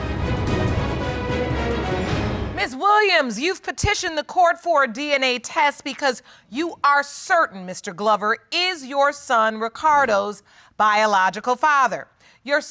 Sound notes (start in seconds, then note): none